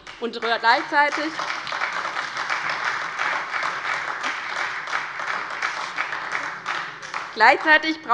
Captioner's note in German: Beifall bei Abgeordneten der SPD